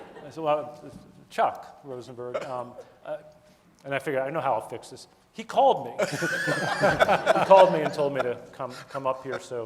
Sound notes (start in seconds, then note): 6.1 audience laughing